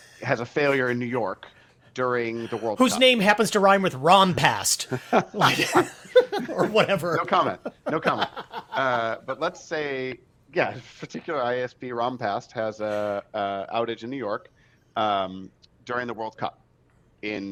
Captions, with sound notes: has a failure in New York during the World Cup... - Whose name happens to rhyme with "ran past"? (all laughs) Or whatever? - No comment, no comment. But let's say, particular ISP ran past has an outage in New York during the World Cup in...